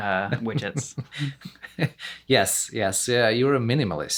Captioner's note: laughs